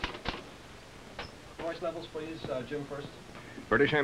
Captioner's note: typewriter clicking